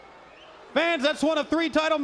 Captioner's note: crowd cheering